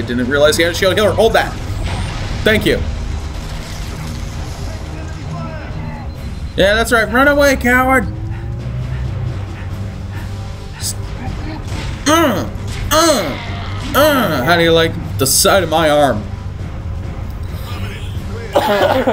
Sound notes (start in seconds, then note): 17.6 big cough ouchies